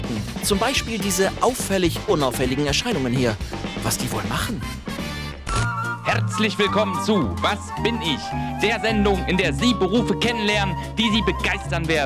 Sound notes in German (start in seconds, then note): 5.4 verzerrt